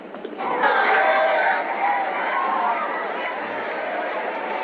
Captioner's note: people cheering